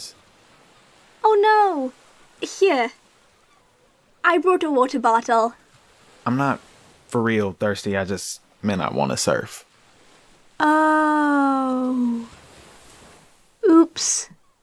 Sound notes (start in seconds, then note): none